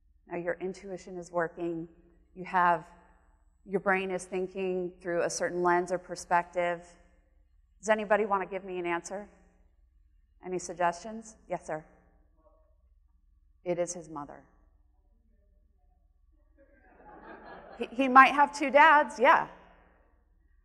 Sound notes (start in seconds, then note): 16.8 audience laughing